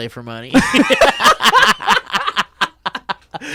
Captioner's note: laughs